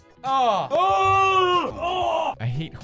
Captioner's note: screaming; screaming again; distant screams